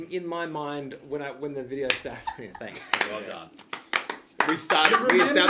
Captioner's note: slow claps